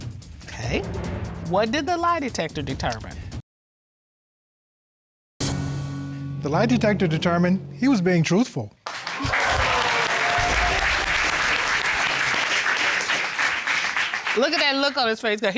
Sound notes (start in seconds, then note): 9.0 audience exclaims